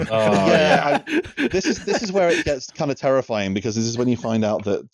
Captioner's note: laughter